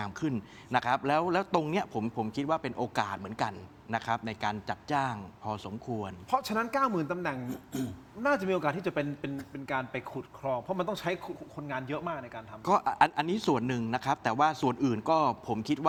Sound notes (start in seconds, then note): 7.4 clears throat